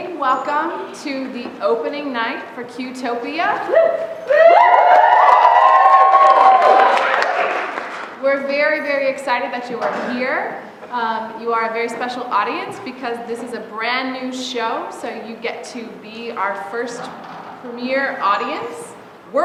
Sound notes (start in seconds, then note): 4.2 cheering; 4.8 applause